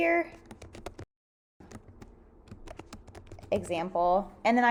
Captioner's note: typing